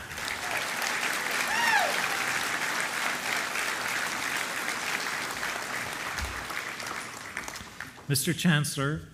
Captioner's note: applause